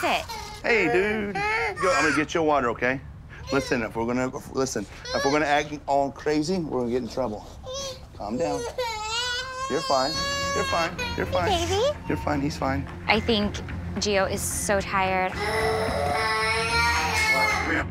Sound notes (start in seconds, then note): 8.3 crying; 15.4 crying